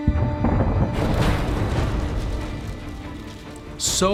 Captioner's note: dramatic music; explosion booming